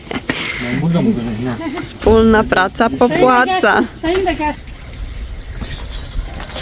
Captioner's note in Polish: śmiech